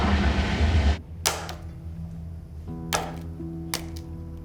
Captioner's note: breaking egg